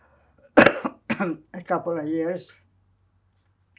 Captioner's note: coughing